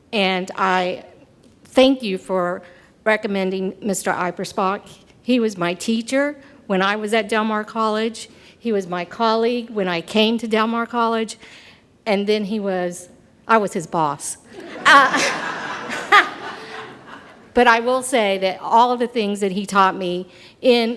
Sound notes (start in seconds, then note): 14.5 audience laughs